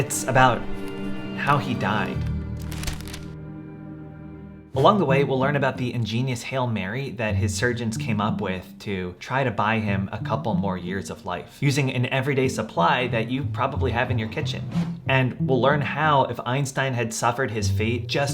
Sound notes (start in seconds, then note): 1.6 paper clacks; 2.3 dramatic music